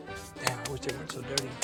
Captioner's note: claps hands to remove dust